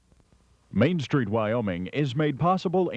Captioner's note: voiceover